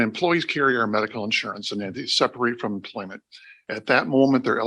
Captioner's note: laughs